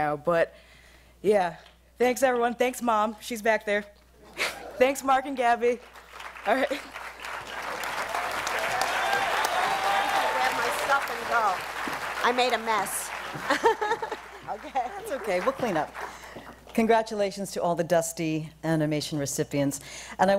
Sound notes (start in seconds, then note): 7.5 applause; 13.2 laughs